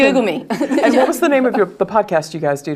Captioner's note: laugh